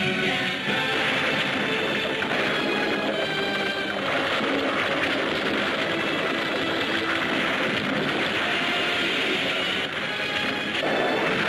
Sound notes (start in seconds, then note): 1.3 club rumbling; 1.3 dramatic music; 7.1 buildings crashing